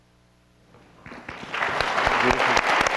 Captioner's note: applause